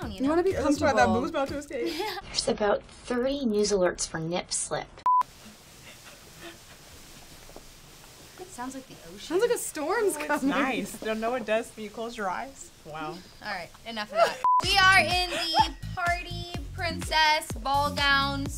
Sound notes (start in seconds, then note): 5.0 beep; 5.7 dresses rustling